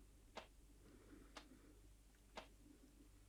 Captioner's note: none